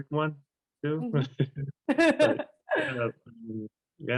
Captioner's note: laughter